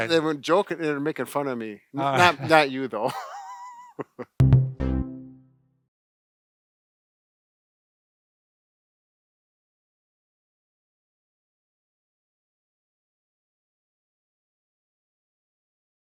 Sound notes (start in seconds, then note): 3.0 laughter; 4.4 upbeat music